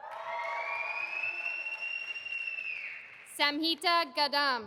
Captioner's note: audience applauding